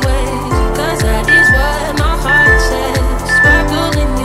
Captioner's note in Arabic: صوت المؤقت